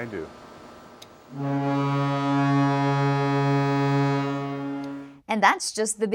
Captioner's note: loud fog horn blows